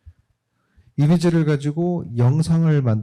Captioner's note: speaking korean